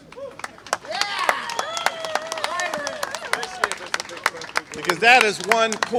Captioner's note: applause